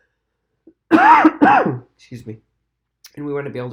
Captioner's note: coughs